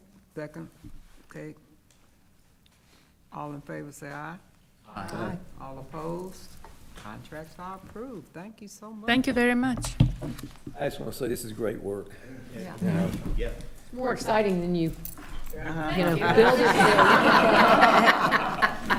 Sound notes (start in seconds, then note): 12.4 others agreeing; 15.4 attendees laughing